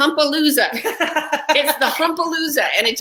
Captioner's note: laughs